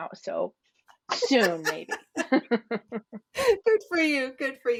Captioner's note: laugher